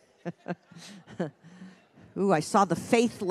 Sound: chuckles

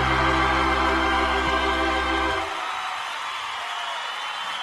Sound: crowd cheering

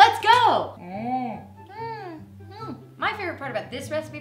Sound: humming

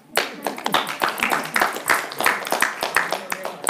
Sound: group applauding

